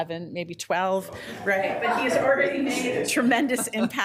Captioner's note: group laughing